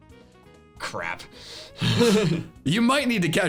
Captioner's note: laughs